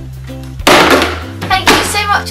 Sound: bottle dropping

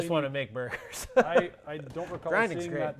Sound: laughs

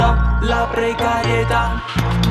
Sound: tick-Tock

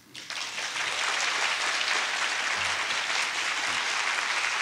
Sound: audience applauding

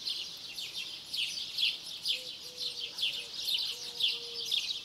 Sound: birds chirping

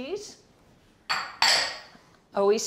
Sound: dishes clink

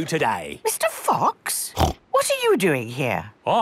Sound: snorts

